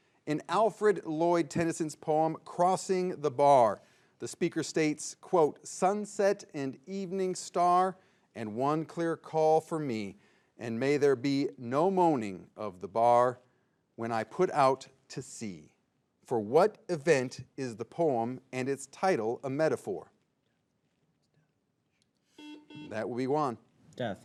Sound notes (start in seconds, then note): 22.3 buzzer beeps